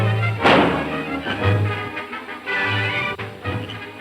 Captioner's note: thumps; dramatic orchestral music; frog croaking